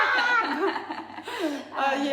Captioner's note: both laughing